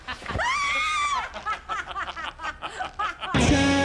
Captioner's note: molly screams